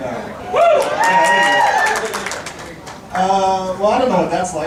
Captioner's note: people cheering